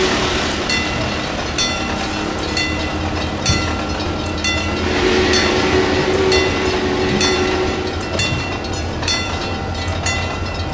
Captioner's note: Union Pacific 4-6-6-4 Challenger whistle, wig wag ringing